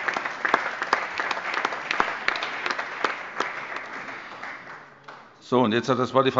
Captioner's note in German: Allgemeiner Beifall